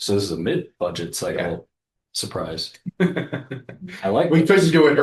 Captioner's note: laughter